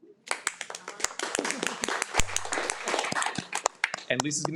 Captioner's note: participants applauding